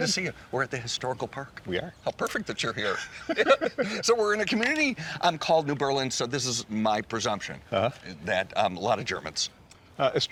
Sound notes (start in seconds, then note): 2.8 chuckles